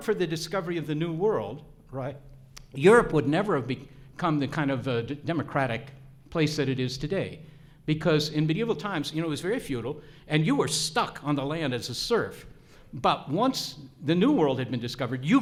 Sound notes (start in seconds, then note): none